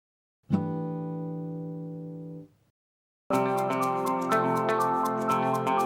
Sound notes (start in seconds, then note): 0.5 chime sounds; 3.3 upbeat music